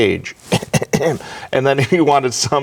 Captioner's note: coughs